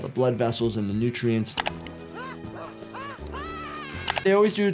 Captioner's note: Disco Bear screams